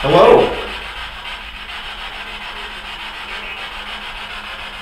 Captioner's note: static buzzing